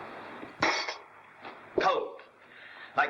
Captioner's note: cup clangs down